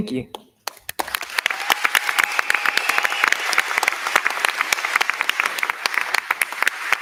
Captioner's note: crowd clapping; crowd cheering